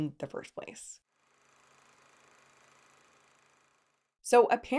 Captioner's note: projector whirring